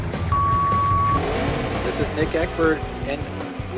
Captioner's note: countdown clock beeps; engine revving